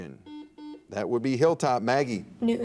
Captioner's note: buzzer dings